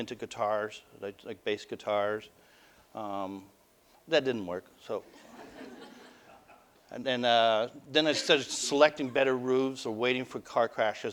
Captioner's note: audience: Laughter